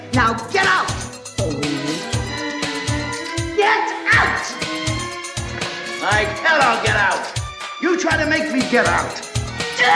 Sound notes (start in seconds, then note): 1.4 music intensifies; 1.5 dog whimpers